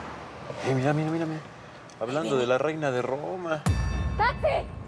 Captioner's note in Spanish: ruido de autos pasando